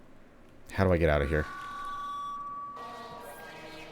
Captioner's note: speaker Feedback